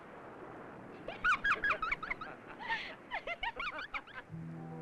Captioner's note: Jane giggling